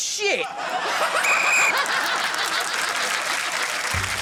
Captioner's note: laughs; blows whistle